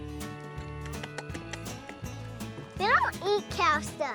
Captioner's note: smacking lips